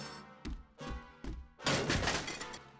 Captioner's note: alarm bell; crash